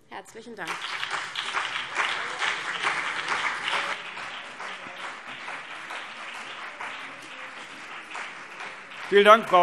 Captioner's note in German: Beifall CDU und BÜNDNIS 90/DIE GRÜNEN